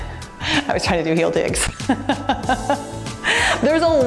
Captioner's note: laughs